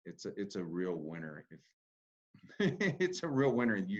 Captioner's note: laughs